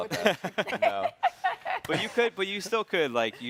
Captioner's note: hosts chattering and chuckling